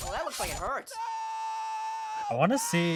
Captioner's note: apple screaming